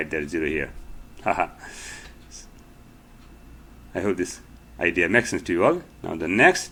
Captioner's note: laughter